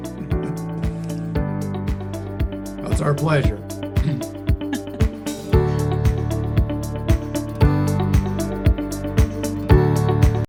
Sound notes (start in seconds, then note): 0.2 upbeat music; 4.6 laughing; 5.5 upbeat music